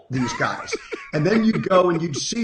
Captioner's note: laughing